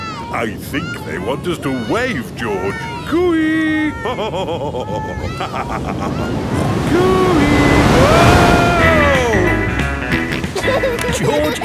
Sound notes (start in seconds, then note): 3.8 laughs; 10.4 snorts and laughs